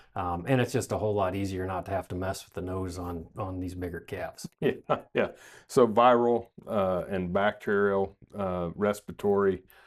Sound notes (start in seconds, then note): 4.4 chuckles